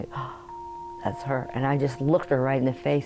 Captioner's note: gasps